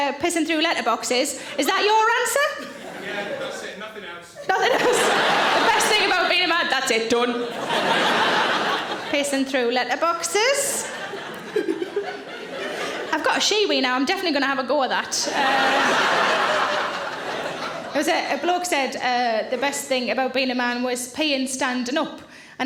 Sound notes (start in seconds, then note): 7.6 audience laughing; 11.6 Sarah chuckles; 15.0 audience laughing